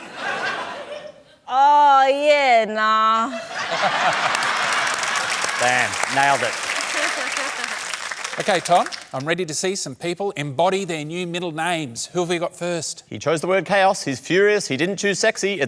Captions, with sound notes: Oh, yeah, nah. (LAUGHTER, APPLAUSE) Damn. Nailed it. OK, Tom, I'm ready to see some people embody their new middle names. Who have you got first? He chose the word 'chaos'. He's furious he didn't choose 'sexy'.